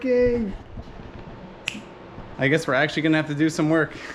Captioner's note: snaps again